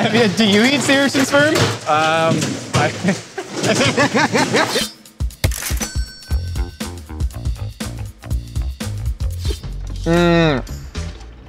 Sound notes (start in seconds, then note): 2.9 all laughing; 6.2 funky music